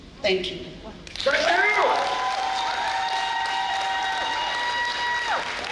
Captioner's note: audience applauding